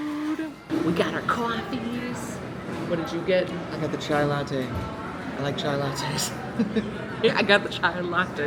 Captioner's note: laughs